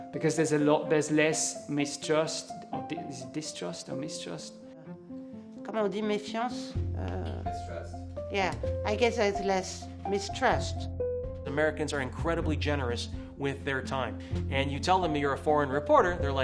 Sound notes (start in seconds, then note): 5.7 speaking in foreign language